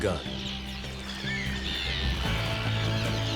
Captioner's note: birds squawking